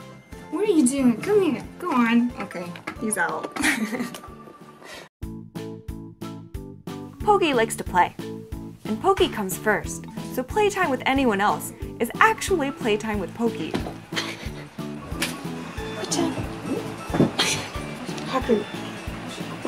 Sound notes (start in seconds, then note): 4.0 laughs; 5.2 bouncy music; 16.4 tsks